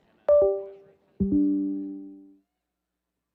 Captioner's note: computer electronic signal